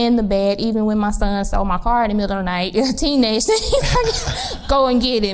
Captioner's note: laughs